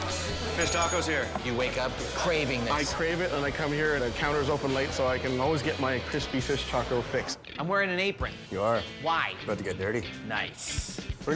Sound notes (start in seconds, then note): 0.5 bell dinging